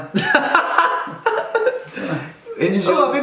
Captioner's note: laughing